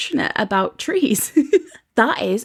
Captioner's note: laughs